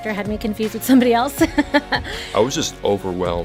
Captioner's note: chuckling